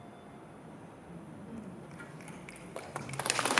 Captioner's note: applause